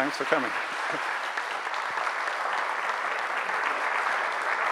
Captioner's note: audience applauds